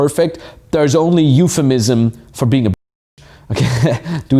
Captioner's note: laughs